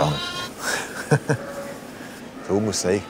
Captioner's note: he laughs